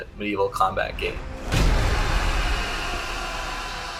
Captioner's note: explosion